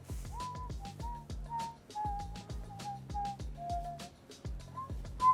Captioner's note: casual whistling